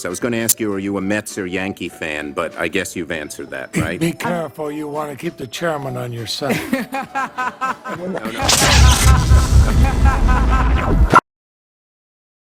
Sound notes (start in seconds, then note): 6.4 laughter